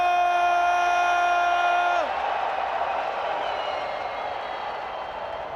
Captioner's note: crowd cheering